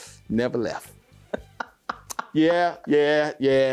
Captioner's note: laughing